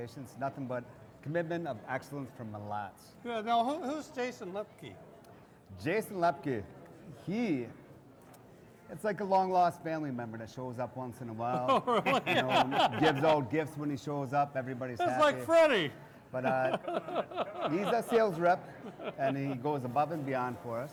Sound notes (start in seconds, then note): 11.5 laughs